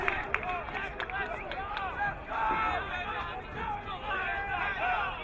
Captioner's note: crowd cheering